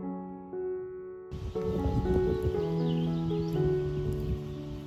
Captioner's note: original audio of birdsong and a gentle summer breeze